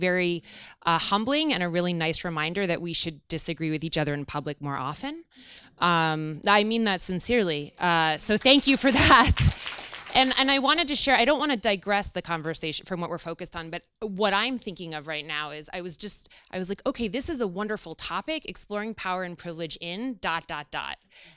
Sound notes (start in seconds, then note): 8.8 audience applauds